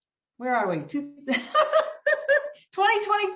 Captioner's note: laughing